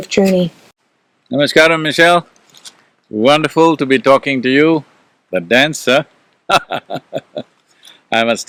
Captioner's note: laughs